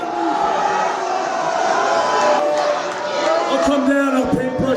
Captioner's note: crowd jeers